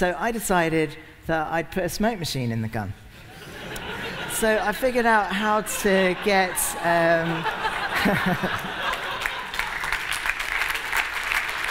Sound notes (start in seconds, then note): 3.2 laughter; 8.7 applause